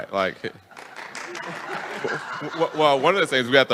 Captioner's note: attendees applauding and laughing